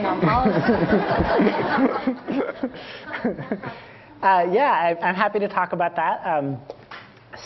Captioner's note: Laugh